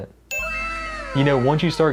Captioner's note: dings